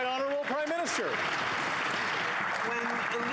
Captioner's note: applause